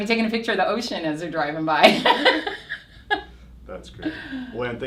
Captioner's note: laughs